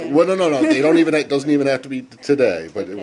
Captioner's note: laughter